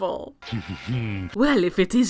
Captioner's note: Meta Knight laughing